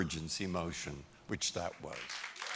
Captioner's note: applause